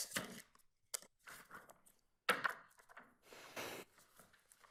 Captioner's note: papers rustling